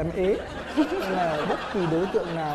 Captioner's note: laughing